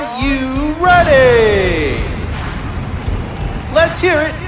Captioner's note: deep bass music; crowd clapping